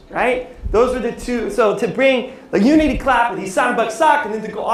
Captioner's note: non-english speech